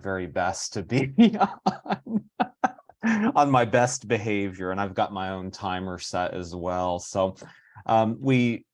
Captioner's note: laughing